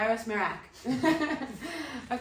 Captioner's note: laughing